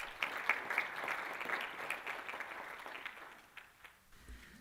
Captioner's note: applause